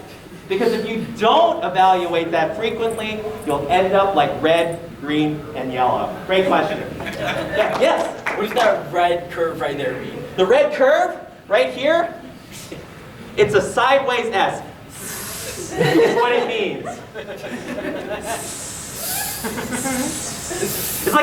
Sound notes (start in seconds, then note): 14.8 hissing; 17.0 audience giggling; 18.2 hissing; 18.2 hissing back and forth forever